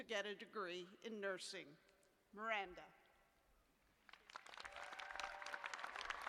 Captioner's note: cheers and applause